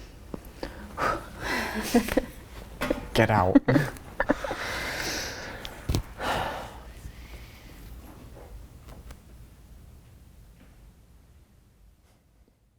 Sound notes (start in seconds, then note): 1.1 exhales sharply; 1.1 laughs